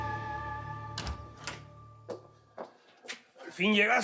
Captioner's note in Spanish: sonido al abrir la puerta